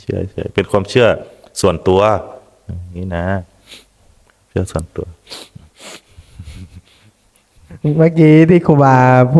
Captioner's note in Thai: เสียงสูดหายใจ